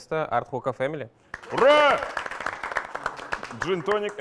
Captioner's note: applause